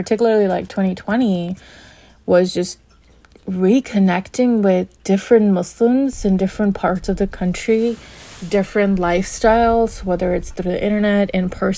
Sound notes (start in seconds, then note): none